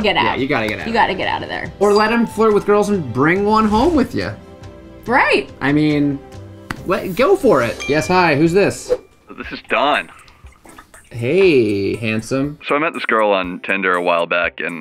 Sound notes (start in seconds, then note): 7.8 text tone